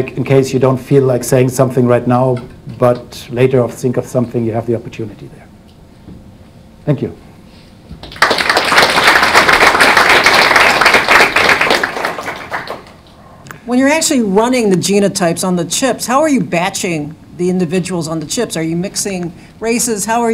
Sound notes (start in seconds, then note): 8.0 audience applauding